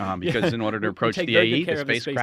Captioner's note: laughing